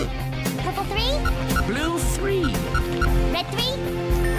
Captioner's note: game beeping incorrect; game beeping correct; game beeping incorrect